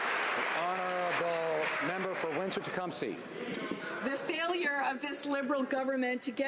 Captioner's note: applause